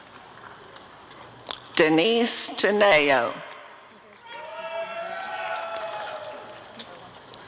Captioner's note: applause and cheering